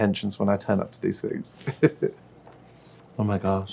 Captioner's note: chuckles